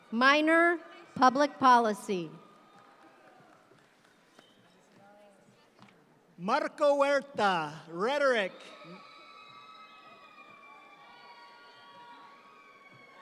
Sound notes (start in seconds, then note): 8.0 audience cheering